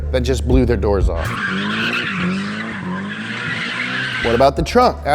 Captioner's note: car screeching